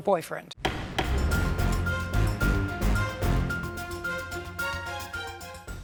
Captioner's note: dramatic music; gavel bangs